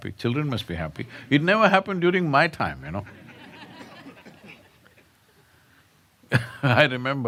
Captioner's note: laughter